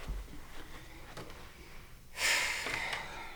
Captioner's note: David sighs